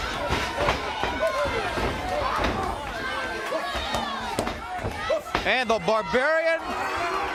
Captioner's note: crowd chatter